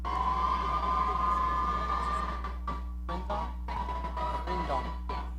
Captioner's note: audience cheering